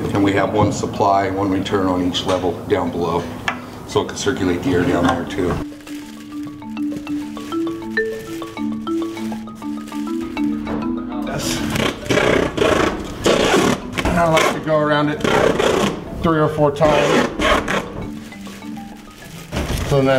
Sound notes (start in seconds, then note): 4.8 plastic rustling; 11.2 sound of tape being applied; 19.0 plastic rustling